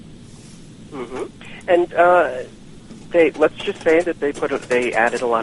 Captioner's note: affirms